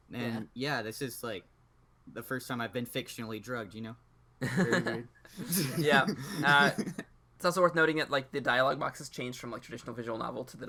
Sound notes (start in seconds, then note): 5.4 laughs